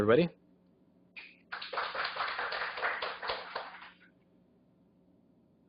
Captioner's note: applause